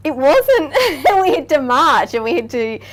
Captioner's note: laughing